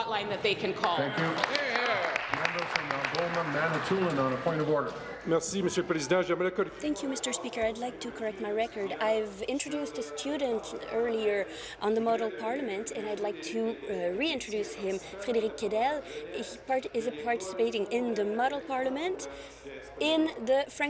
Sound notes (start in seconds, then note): 5.7 applause; 9.5 speaking in French